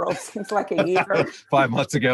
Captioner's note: laughs